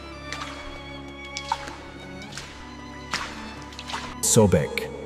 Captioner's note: water splashing; tense music plays